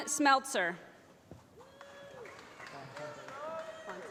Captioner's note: applause